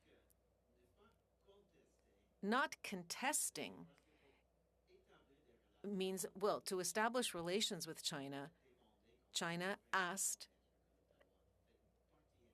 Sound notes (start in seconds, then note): 3.8 speaking French